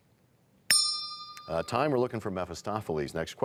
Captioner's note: bell rings, time expires